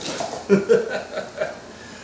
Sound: laughs

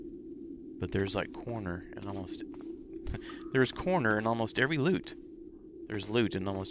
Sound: laughs

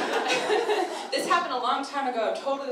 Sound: audience laughter

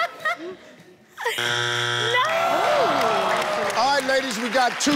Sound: buzzer sounds

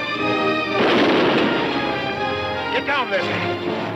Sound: gun firing

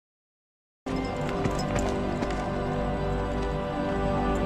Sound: footsteps on sand

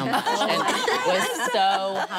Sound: laughing

